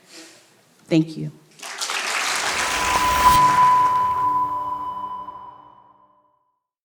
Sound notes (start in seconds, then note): 1.5 audience applauding; 2.3 dramatic music